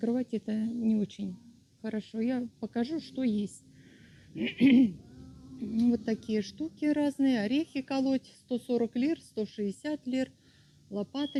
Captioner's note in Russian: откашливается